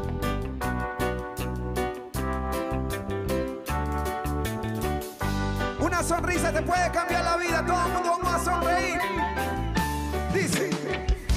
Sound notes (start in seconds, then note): 2.2 speaking in Spanish; 8.1 singing in Spanish